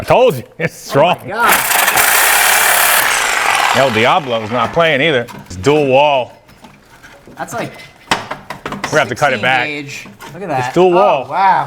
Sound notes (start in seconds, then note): 1.4 saw buzzing loudly